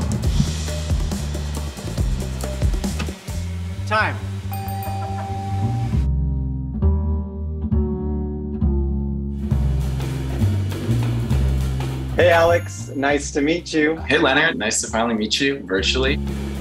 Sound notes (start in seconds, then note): 0.0 upbeat music; 4.5 bell dinging; 6.5 upbeat music; 16.3 upbeat music